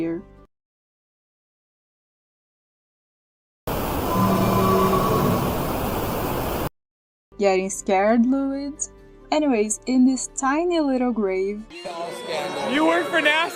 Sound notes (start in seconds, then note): 3.7 static; 4.1 woooooohhh